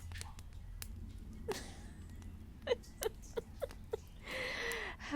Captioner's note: laughter